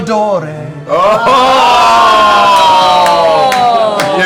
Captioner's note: cheering